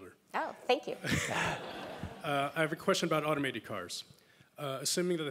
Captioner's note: laugh